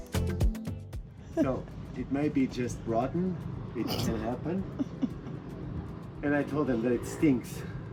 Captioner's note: laughter